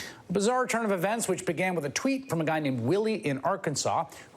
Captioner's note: none